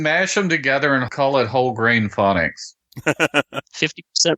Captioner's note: laughter